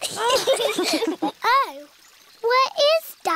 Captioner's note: all laugh